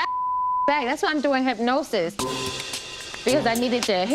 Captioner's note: beep